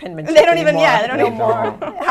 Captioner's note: laughter